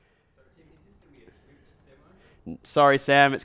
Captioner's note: voiceover